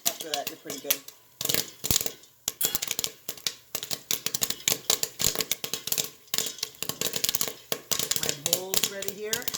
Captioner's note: popping sounds